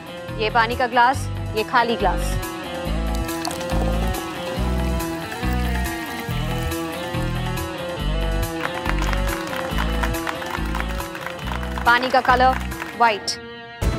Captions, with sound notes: This is the glass filled with water. This is an empty glass. [pouring water] [applause] The water is now white.